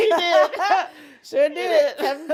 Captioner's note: laughs